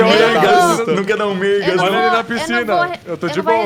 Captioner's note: laughter; laughing